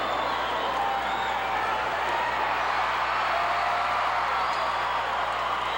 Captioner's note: audience cheering continues